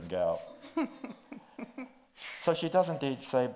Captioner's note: chuckles